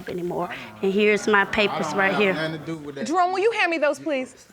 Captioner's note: audience groans